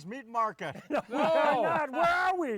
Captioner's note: laughs